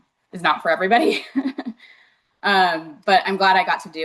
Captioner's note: chuckling